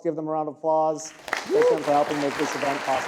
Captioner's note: audience applauding